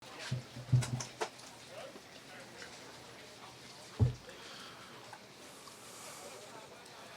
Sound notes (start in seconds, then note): 0.0 chatter among the audience